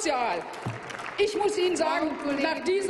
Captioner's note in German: Applaus